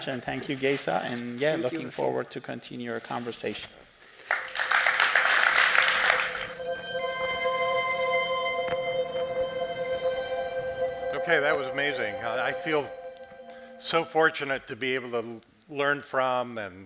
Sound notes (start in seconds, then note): 4.2 audience applauds; 6.5 suspenseful music